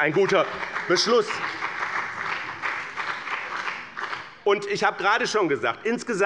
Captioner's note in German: Beifall bei dem BÜNDNIS 90/DIE GRÜNEN und der CDU